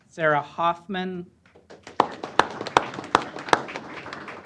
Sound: applause

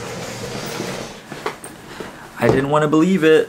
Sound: chair scraping

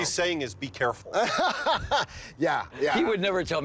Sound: laughs

